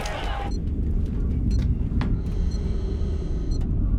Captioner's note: beeping